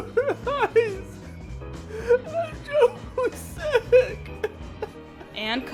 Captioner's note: panicked breathing